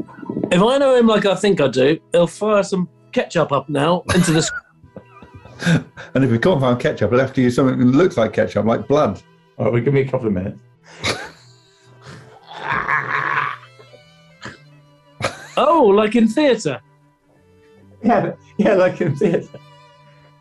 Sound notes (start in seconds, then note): 4.0 laughing; 10.9 laughing; 11.7 groaning; 15.2 laughing; 19.0 laughing